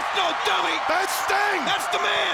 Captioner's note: audience cheers